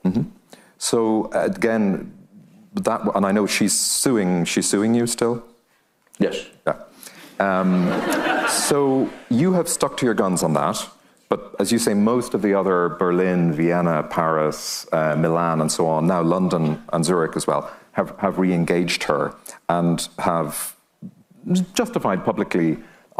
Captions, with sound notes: - Mm-hmm, so again, and I know she's suing, she's suing you still? - Yes. - Yeah. (audience laughing) So you have stuck to your guns on that. But as you say, most of the other Berlin, Vienna, Paris, Milan, and so on, now London and Zurich as well, have reengaged her and have justified publicly